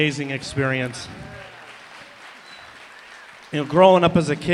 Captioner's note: applause, cheering